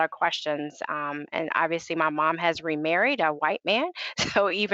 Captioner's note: laughing